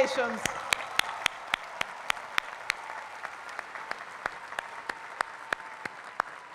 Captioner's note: applause